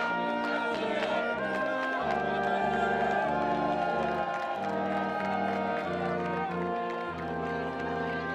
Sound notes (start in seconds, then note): 1.9 students cheering